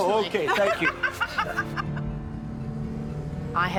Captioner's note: both laugh